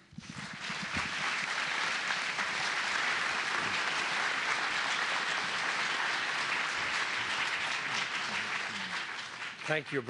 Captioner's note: applause